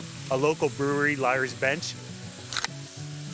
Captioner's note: tab popping